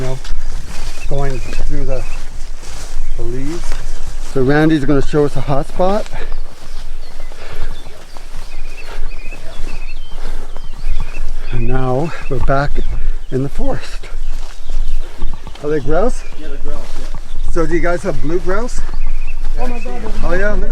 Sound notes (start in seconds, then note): 0.0 underbrush rustling; 6.0 heavily breathing; 6.4 birds chirping